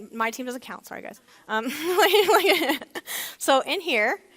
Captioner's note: laughs